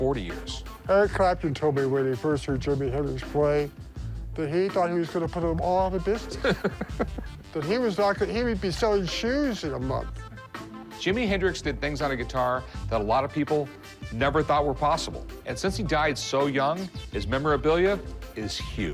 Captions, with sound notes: Eric Clapton told me, when he first heard Jimi Hendrix play, that he thought he was going to put them all out of business-- [laughs] --that he was-- he would be selling shoes in a month. Jimi Hendrix did things on a guitar that a lot of people never thought were possible. And since he died so young, his memorabilia is huge.